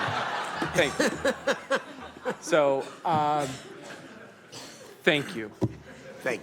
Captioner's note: laughter